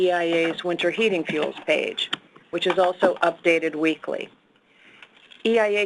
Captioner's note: clicking